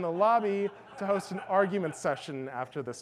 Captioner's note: audience laughs